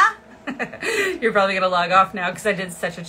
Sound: laughing

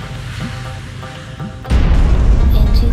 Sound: crash

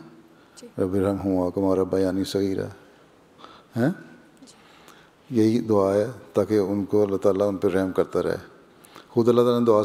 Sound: Arabic

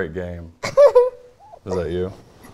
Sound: laughing

